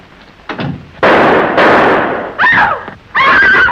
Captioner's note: two gunshots